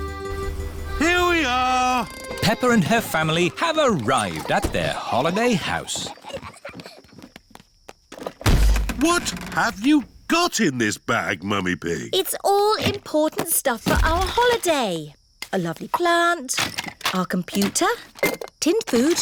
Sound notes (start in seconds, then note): 6.8 peppa and george giggling; 8.4 thud